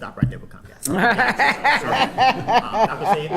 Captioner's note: and others laughing